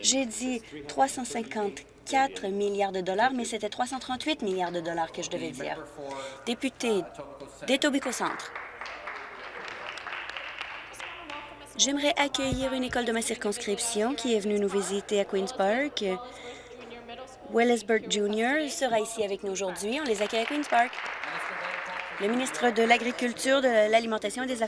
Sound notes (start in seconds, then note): 11.5 applause